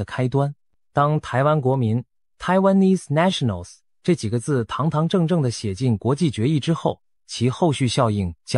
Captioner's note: Taiwanese